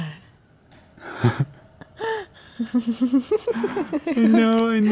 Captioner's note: adorable giggles from both